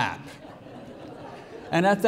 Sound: congregation laughing

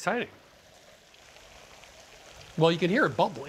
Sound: bubbling

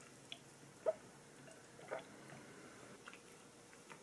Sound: gulp gulp

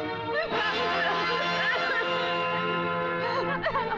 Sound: coughs

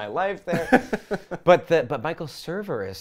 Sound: laughs

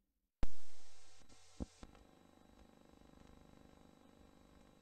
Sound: VHS static

